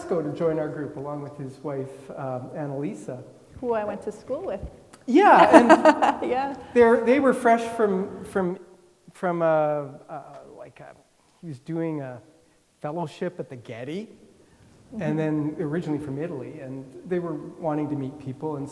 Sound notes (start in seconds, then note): 5.1 laughing